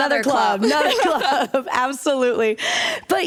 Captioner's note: laughter